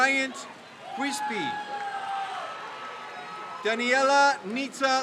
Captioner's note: crowd cheers